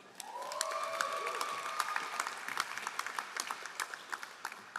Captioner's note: all applauding